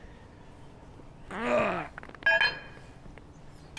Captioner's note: grunting